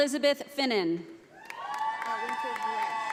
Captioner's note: audience applauding